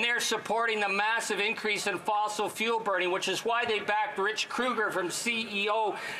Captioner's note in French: voix de l'interprète